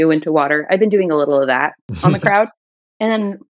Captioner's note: laughter